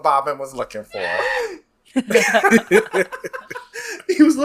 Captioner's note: laughs